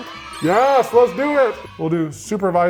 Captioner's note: children cheering